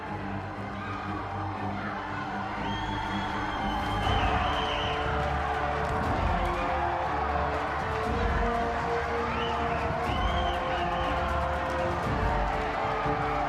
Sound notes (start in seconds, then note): 2.4 crowd whistling; 5.3 crowd applauding